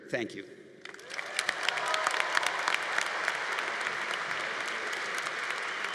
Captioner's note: congregation applauding